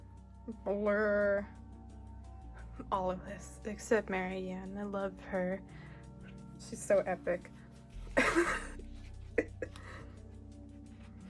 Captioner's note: laughs